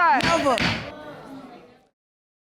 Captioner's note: gavel pounds